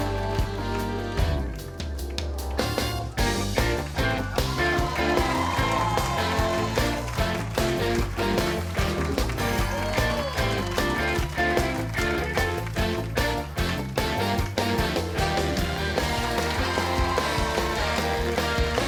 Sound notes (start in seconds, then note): 5.0 cheering; 8.3 upbeat music; 10.7 cheering; 13.4 upbeat music; 16.5 cheering